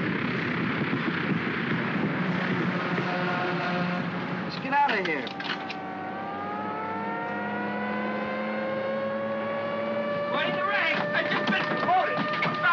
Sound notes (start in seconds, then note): 0.0 aircraft rumbles softly; 2.6 creaking sound; 5.7 sirens wailing